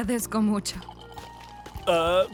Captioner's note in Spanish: Sorbiendo